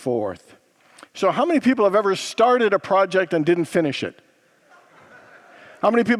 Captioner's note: congregants laugh